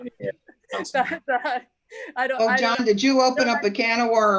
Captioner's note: laughter